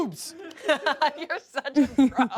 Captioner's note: everyone laughs